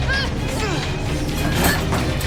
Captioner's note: angry grunting; frantic clanging